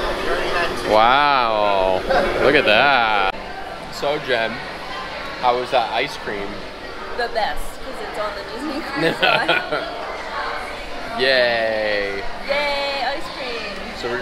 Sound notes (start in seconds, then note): 9.0 laughs